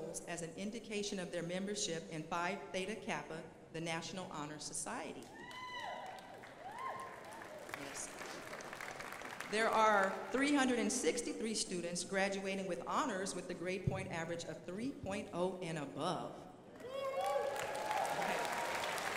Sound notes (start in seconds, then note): 5.4 crowd applauding; 16.8 crowd applauding